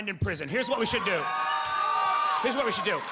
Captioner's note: audience cheers